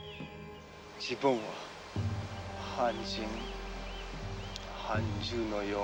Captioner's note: speaking foreign language